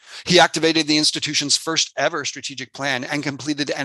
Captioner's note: speaking foreign language